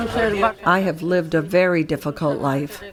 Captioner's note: through translator